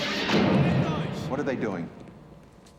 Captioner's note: speaking german